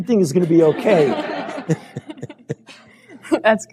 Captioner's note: laughter